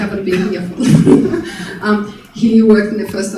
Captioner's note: chuckling